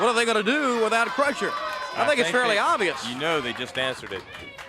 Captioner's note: crowd chatter